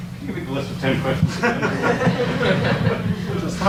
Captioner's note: audience laughs